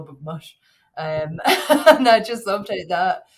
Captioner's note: chuckles